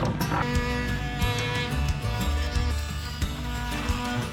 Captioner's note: grinder buzzing